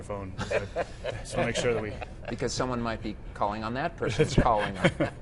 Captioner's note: laughing